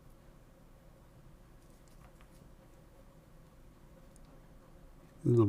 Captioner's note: silence